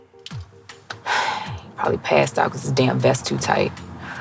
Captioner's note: sighs